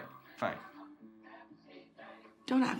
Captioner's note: television chatter